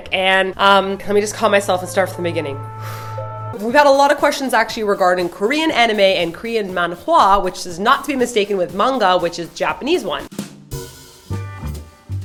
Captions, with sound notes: And...um... Let me just calm myself and start from the beginning. [she breathes deeply] We got a lot of questions actually regarding Korean anime and Korean manhwa which is not to be mistaken with manga, which is the Japanese one.